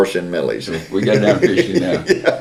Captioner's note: laughs